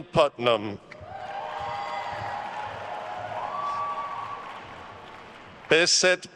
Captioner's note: attendees cheering and applauding